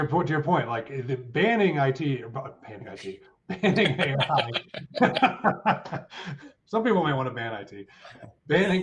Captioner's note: laughing